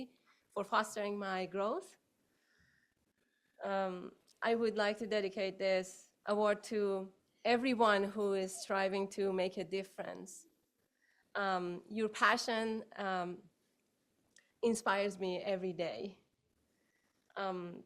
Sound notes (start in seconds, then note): none